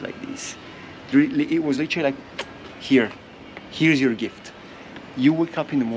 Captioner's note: kiss